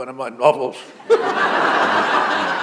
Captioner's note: laughter